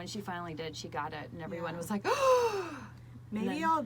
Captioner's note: gasps